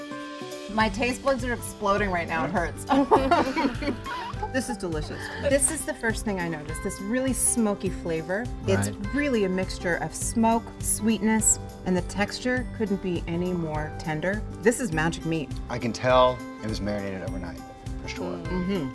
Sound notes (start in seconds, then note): 0.0 gentle music; 2.9 laughs